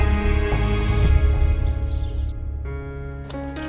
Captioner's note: birds chirping